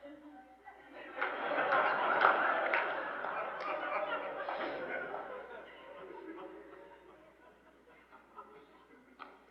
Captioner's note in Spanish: risas; alguna risa más fuerte